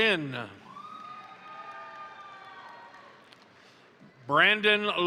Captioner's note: crowd cheering; crowd applauding